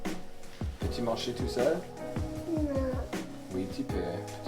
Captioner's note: speaking in French